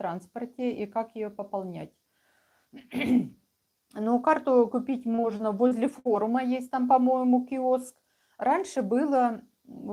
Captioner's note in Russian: откашливается